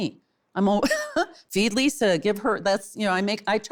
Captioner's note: laughs